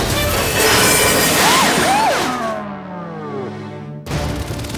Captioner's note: sirens die down